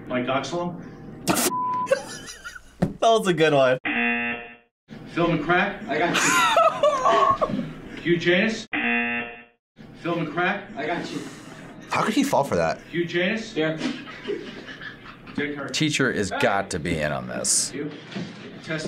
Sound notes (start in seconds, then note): 1.9 laughs; 3.8 buzzer rings; 6.1 laughs; 8.7 buzzer rings